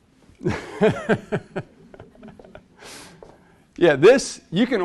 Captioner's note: instructor laughs